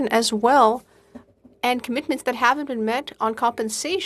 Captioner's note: speaking FRENCH